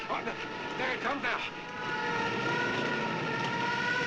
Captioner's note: siren